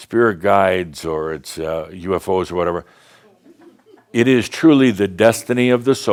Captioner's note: a few giggles